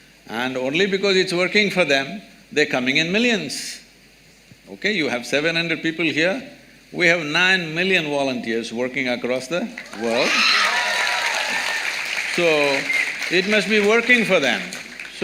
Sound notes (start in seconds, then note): 9.8 applause